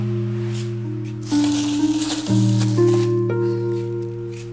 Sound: melancholic music playing; plastic bag rustling

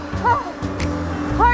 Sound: sighing in exhaustion

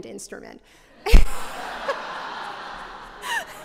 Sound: laughter

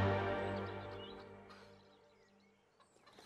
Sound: birds chirping

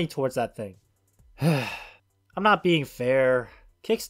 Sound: sigh

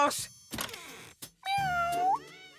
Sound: meowing

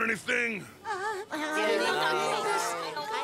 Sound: whimpering

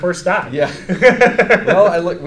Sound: both laugh

